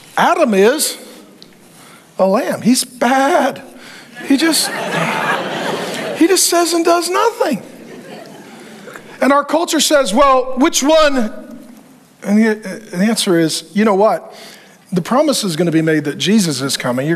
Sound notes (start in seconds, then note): 3.9 congregation laughing